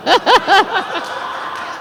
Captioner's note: laughs